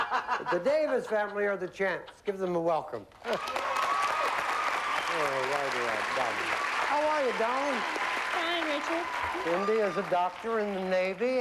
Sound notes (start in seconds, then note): 3.2 cheers and applause